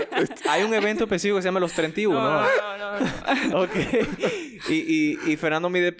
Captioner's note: laughs